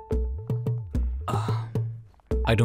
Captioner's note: Kayzad sighs